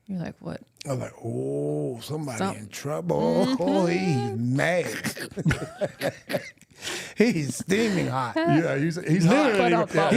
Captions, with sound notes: You're like, "What?" I was like, "Oh, somebody in trouble. He's mad. (laughs) He's steaming hot." Yeah, he's hot. Ba-dum-bum.